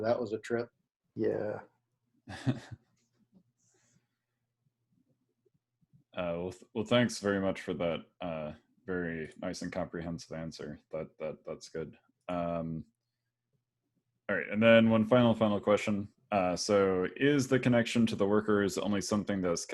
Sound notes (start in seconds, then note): 2.3 laughs